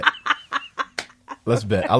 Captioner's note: laughs